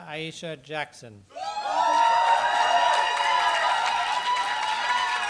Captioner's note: applause